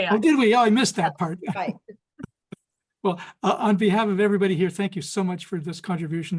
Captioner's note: laughs